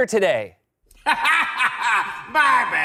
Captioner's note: laughs